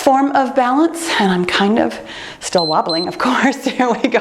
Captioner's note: timer beeps